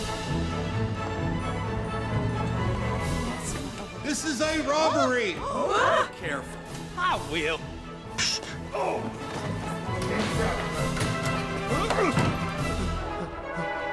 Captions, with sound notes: (fast instrumental music) - This is a robbery! (bank patrons gasping) - Be careful! - I will! Phew! - Oh! (fast instrumental music)